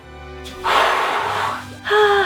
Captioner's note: hooo; haaaa